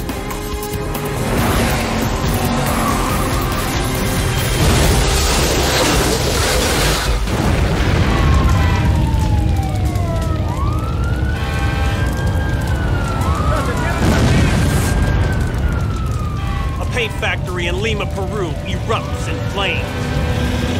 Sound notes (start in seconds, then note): 8.1 siren wailing